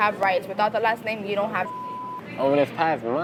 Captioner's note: beep